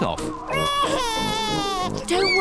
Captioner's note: cries